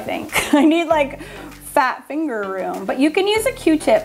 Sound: laughs

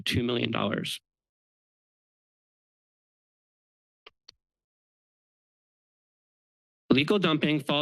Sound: pause

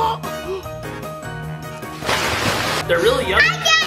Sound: water splash

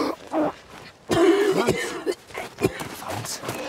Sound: coughing

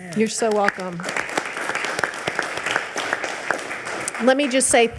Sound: audience applauding

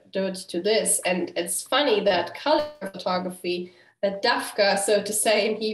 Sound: hebrew

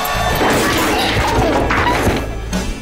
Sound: crash

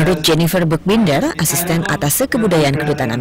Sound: non-english speech

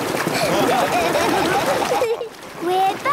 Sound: laughing

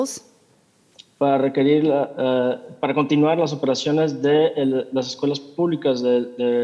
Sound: translator speaking in Spanish

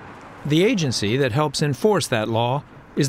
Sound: voice-over

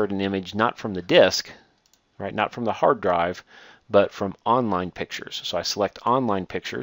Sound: click

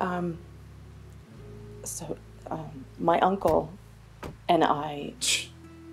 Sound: car doors clicking

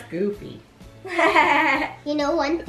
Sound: laughs

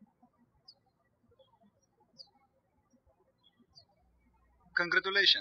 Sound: birds chirping

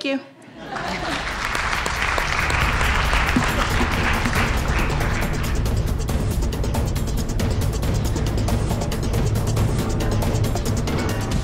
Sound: applause and background noise

